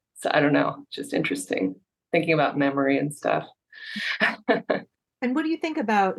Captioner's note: laughs